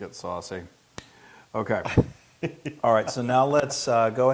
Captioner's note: laugh